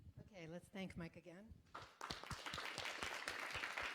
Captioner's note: applause